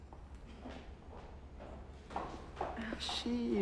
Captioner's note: shoes clacking